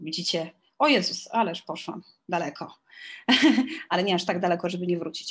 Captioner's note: śmiech